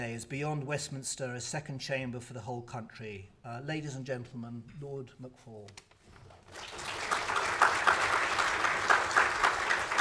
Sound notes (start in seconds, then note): 6.4 audience applauds